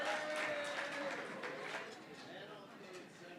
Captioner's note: cheering & Applause